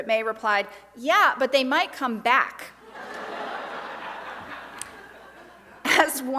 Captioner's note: audience laughs